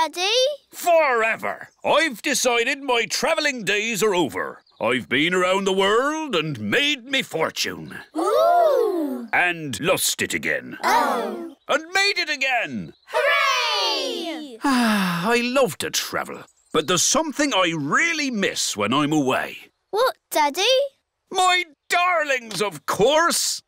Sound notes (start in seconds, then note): 14.4 sighs